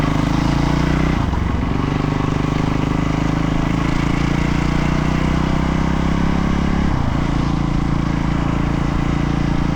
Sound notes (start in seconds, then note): 3.2 engine revving